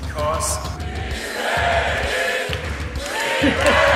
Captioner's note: crowd; Gary laughing